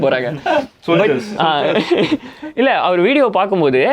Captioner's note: group laughs